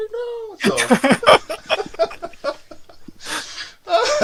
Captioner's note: laughing